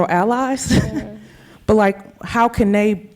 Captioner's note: chuckling